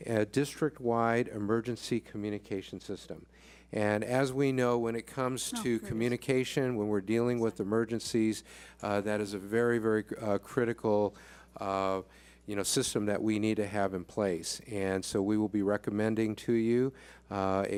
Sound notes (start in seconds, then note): none